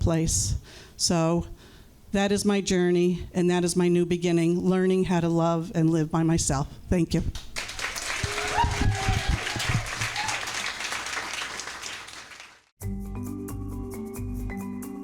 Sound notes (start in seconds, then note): 7.5 crowd cheers and claps; 12.7 bright music